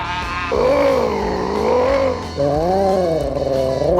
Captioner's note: Heidi groans; Richard groans; Marc groans